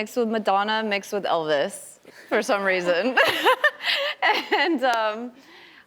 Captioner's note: laughs